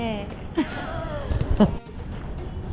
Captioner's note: laugh